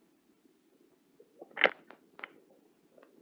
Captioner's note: rocks clattering